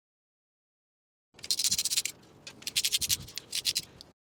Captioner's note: ratchet Noise